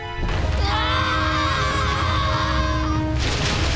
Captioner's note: screaming